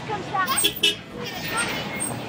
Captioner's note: bus horn